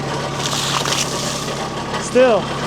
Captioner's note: water splashes